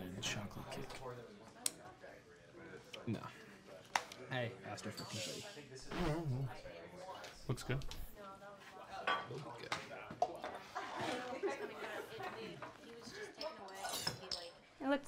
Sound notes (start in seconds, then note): 9.7 people chattering